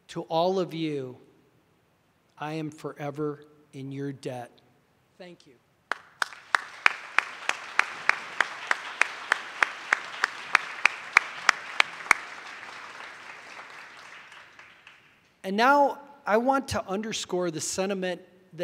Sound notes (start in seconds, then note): 6.0 audience applauding